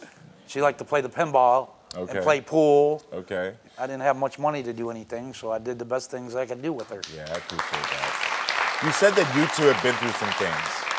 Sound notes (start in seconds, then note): 6.8 audience applauding